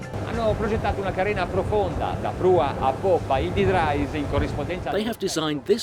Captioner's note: speaking in foreign language